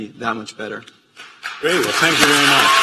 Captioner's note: applause